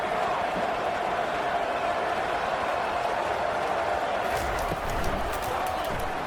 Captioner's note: crowd Noises